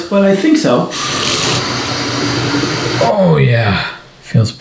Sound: water running

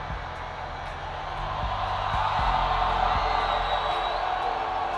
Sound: crowd Cheering

